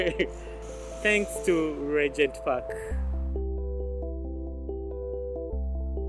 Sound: laughs

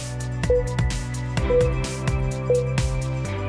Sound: timer beeping

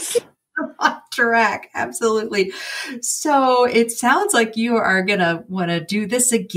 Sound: laughing

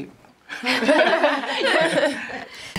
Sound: laughter

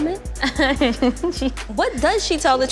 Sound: laughs

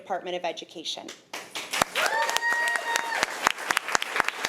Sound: applause

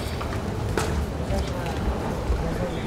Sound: chatter

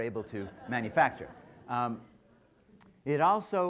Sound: laughter

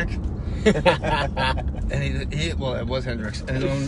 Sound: laughing

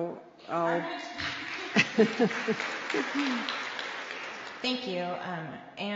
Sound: applause

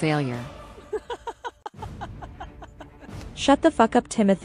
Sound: laughs

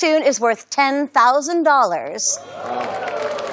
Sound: audience's impressed murmurs

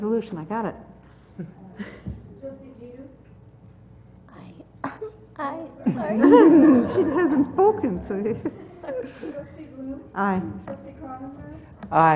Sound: laugh

